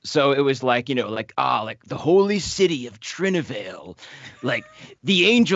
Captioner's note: groans